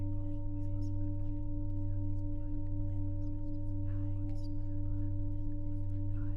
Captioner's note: people whispering continues; low humming continues